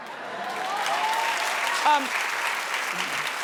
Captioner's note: audience claps